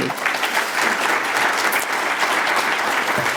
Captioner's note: applause